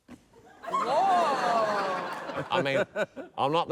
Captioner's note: laughter